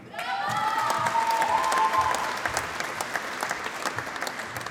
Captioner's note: applause